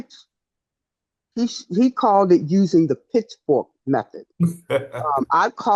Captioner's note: laughs